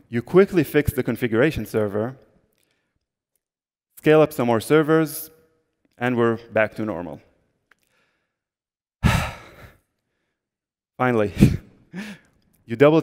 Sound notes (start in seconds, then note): 9.0 sigh